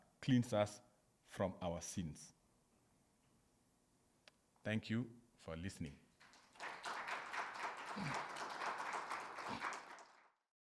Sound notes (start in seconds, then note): 6.2 audience clapping